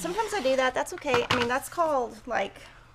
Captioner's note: cutter clatters